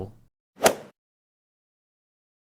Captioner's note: swoosh